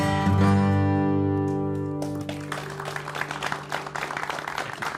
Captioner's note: applause